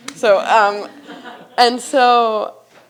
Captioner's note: attendees chuckling